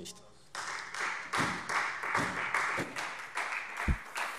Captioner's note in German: Beifall Freie Demokraten und SPD